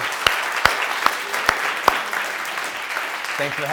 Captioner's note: audience applauding